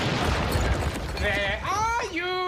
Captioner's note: loud crash